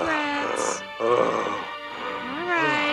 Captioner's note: gasping